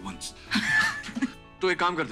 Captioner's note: Both laughing